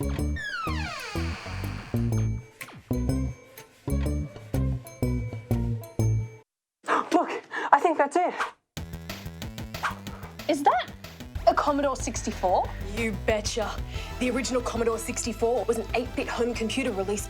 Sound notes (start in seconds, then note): 0.3 door creaks; 7.4 gasps